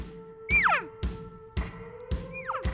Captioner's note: tube call bugling; upbeat music; tube call bugling